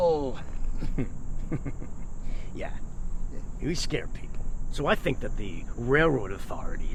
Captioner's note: chuckles